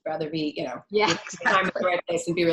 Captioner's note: laugh